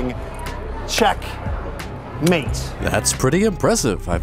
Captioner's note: claps